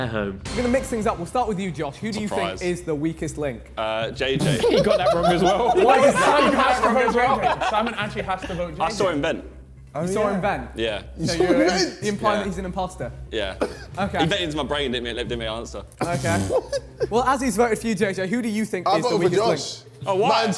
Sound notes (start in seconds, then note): 4.4 JJ laughing; 7.7 men chattering; 16.0 JJ laughing